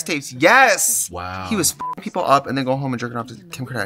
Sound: beep

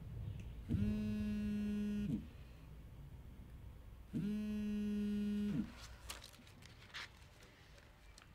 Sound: phone vibrating

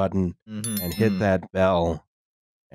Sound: twinkly bell

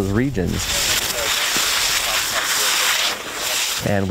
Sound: water spraying

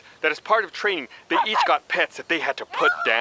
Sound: dog barks

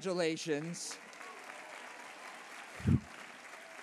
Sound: applause

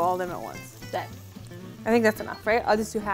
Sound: speaking in mandarin

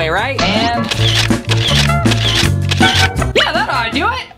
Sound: camera shutter fires

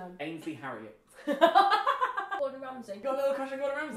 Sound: laughs

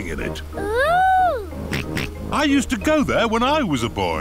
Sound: snorts

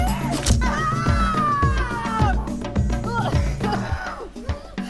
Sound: woman screaming; fork stabbing

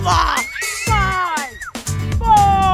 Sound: girls scream

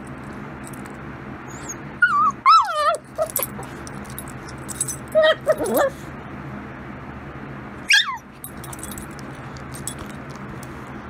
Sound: whimpers once more

